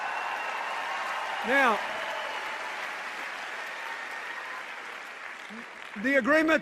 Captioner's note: cheers and applause